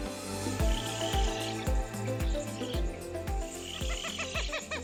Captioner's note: birds chirping